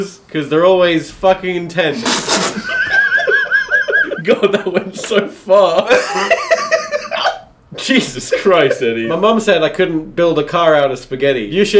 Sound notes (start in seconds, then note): 2.0 spitting water; 2.0 laughing